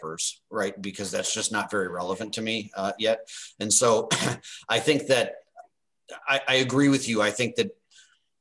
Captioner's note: cough